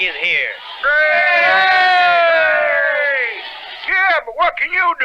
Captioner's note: everyone Cheers